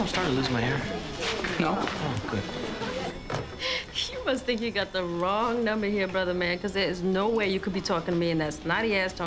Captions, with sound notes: - You notice I'm starting to lose my hair? - No. - Oh, good. (chuckling) - You must think you got the wrong number here, brother man, 'cause there is no way you could be talking to me